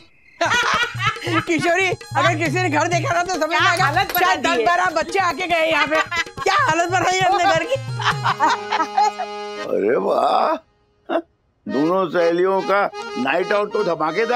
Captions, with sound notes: Kishori, if anyone sees our house in this condition, they'll think 10-12 children were here. Look at the house's condition. [laughs] Wow! Both friends are having an awesome night-out.